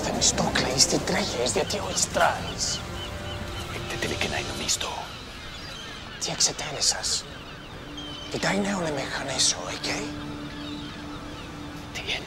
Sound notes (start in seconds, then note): 0.2 speaking in foreign language; 4.0 Themistocles speaking in foreign language; 6.3 speaking in foreign language; 10.5 curious orchestral music